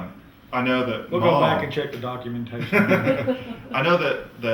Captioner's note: laughter